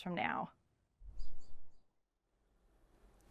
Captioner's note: bird chirps